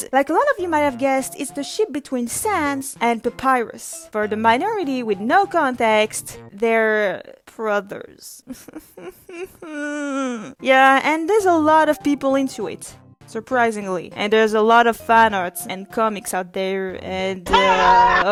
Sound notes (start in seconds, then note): 9.2 whimpers in pain